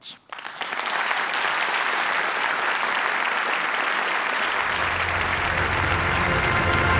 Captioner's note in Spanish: Aplausos